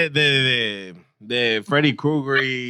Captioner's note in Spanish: Hablando en idioma extranjero